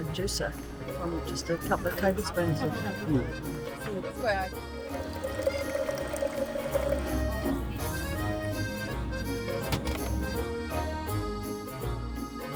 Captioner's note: juicer whining and juice pouring into cup